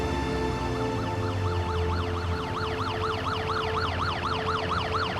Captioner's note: sirens blaring